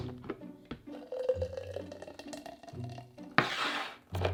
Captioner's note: sauce pouring